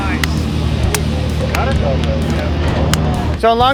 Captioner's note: hand slaps